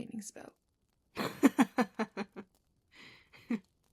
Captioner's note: James laughs